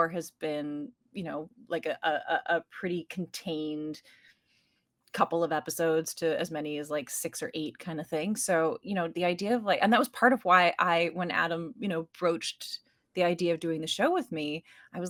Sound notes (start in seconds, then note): none